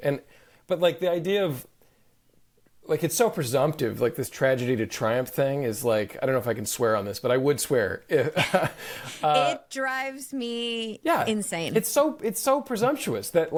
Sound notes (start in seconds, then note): 8.2 chuckles